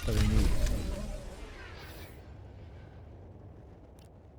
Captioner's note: gun firing